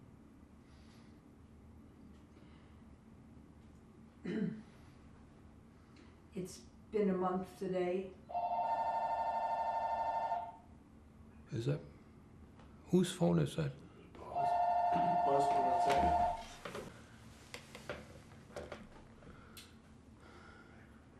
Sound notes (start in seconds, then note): 0.2 pauses 6 seconds; 8.3 phone ringing; 16.9 pauses 6 seconds